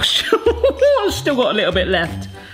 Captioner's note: laughs